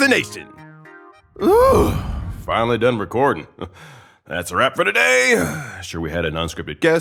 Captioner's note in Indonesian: Huff